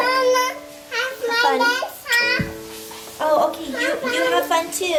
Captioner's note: babbles